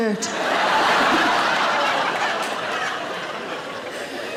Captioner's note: audience laughing